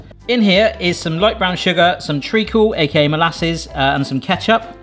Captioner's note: none